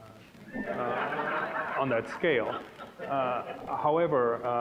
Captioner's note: audience laughing